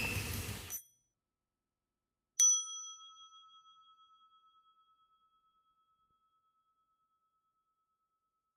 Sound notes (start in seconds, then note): 2.4 bell